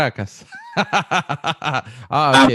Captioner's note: laughs